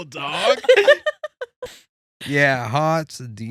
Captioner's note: laughing